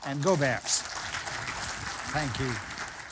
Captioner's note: applause